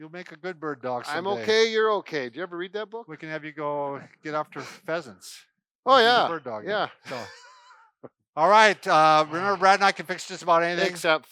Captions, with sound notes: - You'll make a good Bird-dog someday. - I'm okay, you're okay, did you ever read that book? - We can have you go get after pheasants. - Oh yeah, yeah! (laughing) - And you can bird-dog, so. All right, remember Brad and I can fix just about anything--